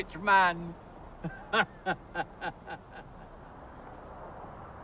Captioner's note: laughs